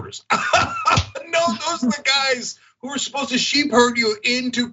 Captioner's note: laugh